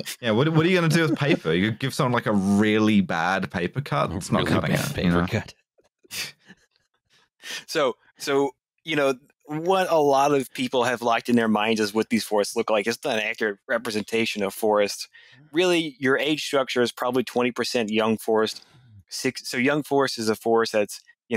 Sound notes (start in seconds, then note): 5.6 laughs quietly